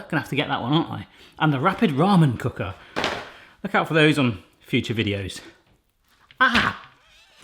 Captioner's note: none